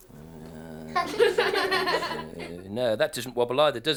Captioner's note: laughing